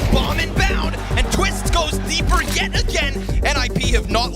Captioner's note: audience cheering